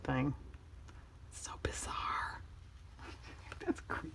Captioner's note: whispers